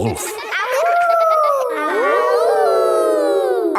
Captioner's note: howling; kids howling